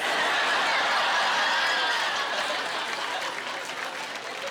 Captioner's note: laughing